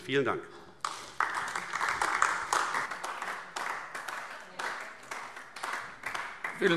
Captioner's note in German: Beifall AfD